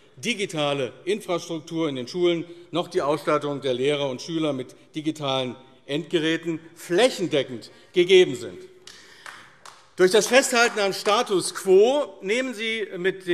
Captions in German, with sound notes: digitale Infrastruktur in den Schulen noch die Ausstattung der Lehrer und Schüler mit digitalen Endgeräten flächendeckend gegeben sind. [Beifall AfD] Durch das Festhalten am Status quo nehmen Sie mit